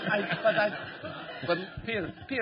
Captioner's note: laughter